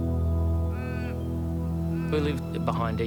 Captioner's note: birds chirping; dramatic music